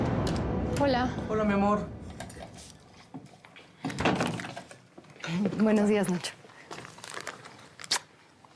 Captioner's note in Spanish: ruido al entrar